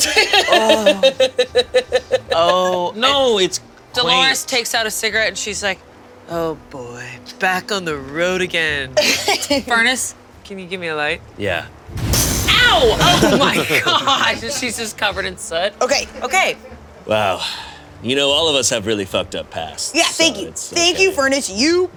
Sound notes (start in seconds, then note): 0.0 laughing; 12.7 flames roaring